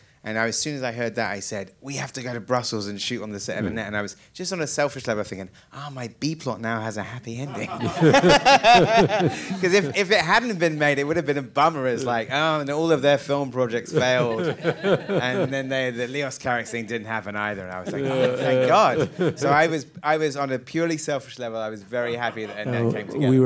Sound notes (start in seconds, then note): 7.5 all laughing; 13.9 laughing